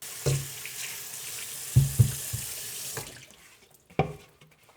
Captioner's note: water splashing